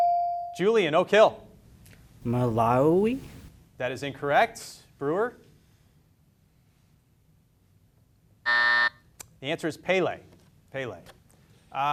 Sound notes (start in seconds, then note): 0.0 beep; 8.4 buzzer buzzes